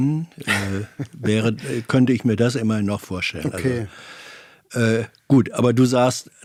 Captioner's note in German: räuspern; gelächter